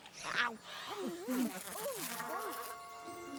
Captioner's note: gulping; munching; buzzing